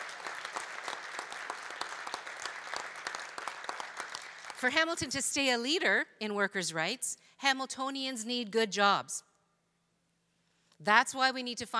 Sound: applause

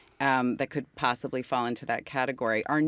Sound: none

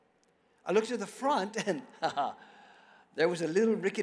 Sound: laughs

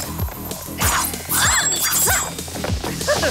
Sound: all scream; laughs

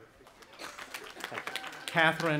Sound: audience applauding

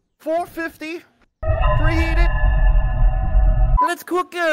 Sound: spooky noise

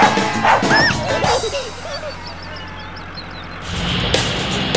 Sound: dog barking; engine rumbling

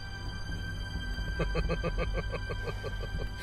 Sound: chuckle

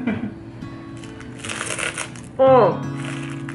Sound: crunch

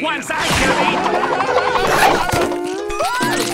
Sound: screaming; yelps

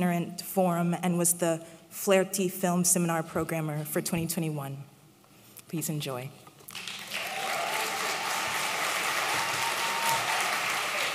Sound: applause

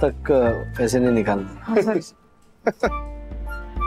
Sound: Harshad chuckling

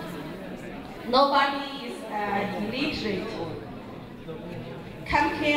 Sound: speaking in Mandarin; crowd talking

